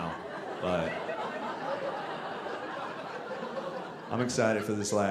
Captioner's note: audience laughing